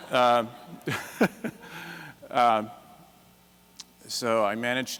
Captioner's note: laughs; laughter